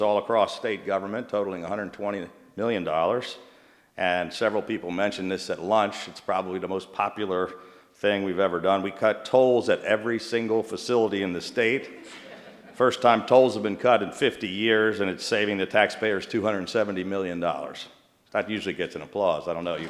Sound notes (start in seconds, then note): 11.8 laughter